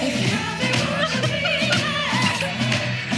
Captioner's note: laughs cheerfully; upbeat music echoes